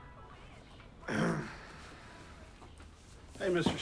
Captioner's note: Paul clears throat